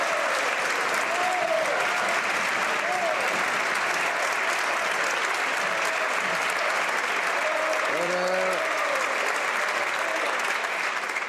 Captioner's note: some Applause